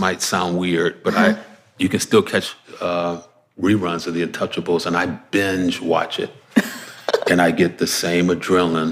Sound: laughs

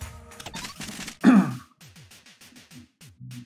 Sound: clears throat

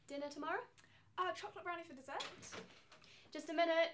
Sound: door opening

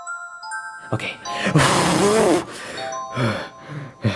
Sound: gentle music; air blowing; Luigi panting

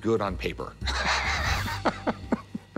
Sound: laughter

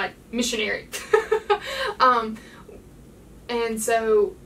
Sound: lady laughing

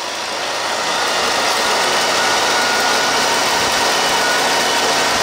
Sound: machine engine roaring

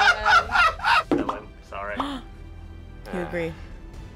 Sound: laughs; React gasps

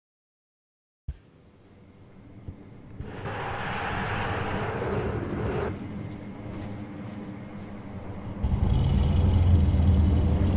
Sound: sound of monster

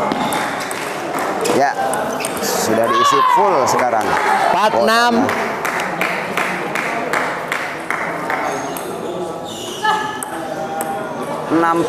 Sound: applause

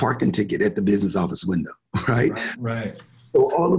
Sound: chuckles

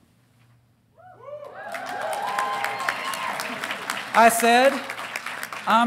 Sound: audience cheering; audience applauding

